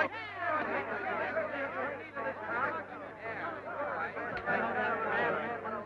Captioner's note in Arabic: يتحدث الحشد مع بعضهم البعض